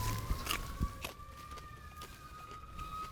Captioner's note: pepper crunching; ambulance sirens wailing